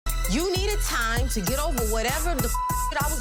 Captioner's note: beep